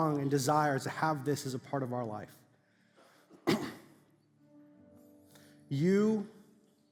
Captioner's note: clears throat